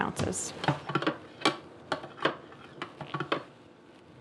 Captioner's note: stirring